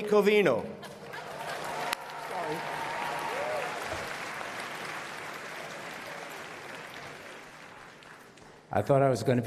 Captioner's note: applause